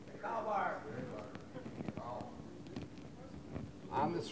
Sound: voiceover

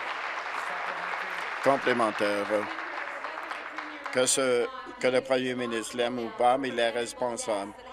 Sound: applause

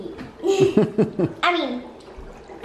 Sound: man laughs

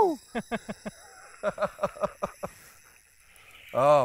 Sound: laughs

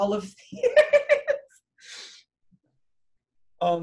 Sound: laughs

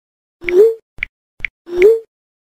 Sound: typing sounds

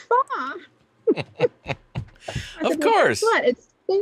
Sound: laughs

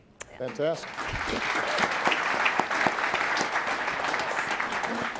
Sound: audience applauding

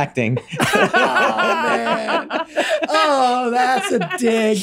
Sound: Megan and Glenn laughing

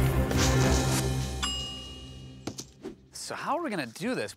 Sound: ding!

